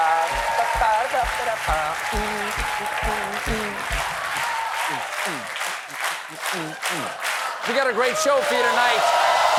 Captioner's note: cheers and applause; humming " "